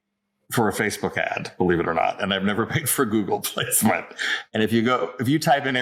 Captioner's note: laughs